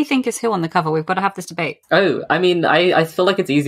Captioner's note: laughs